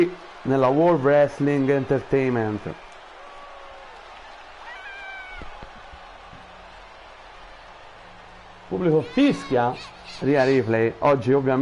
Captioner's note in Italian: Applauso